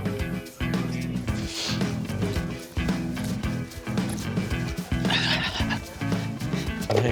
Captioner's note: flapping